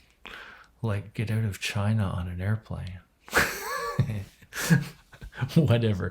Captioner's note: laughs